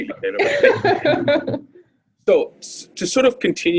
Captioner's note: laughs